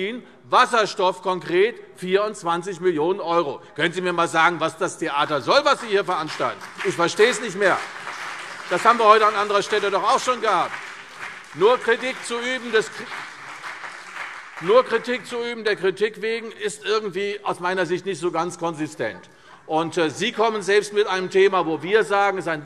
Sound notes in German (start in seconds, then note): 10.5 Beifall CDU und BÜNDNIS 90/DIE GRÜNEN